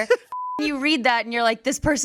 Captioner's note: beep